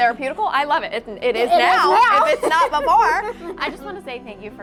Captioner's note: laughs